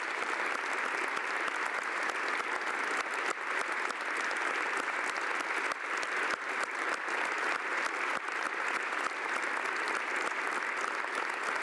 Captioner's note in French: applaudissements